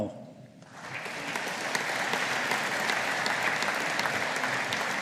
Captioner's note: audience applauding